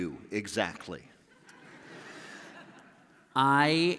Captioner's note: laughter